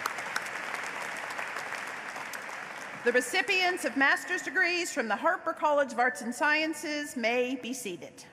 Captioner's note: applause